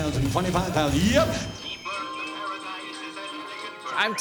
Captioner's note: birds singing